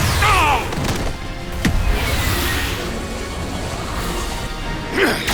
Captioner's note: groans